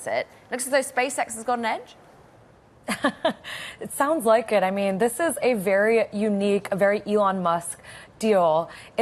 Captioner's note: laughter